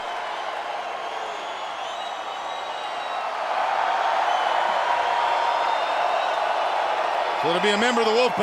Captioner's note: crowd cheering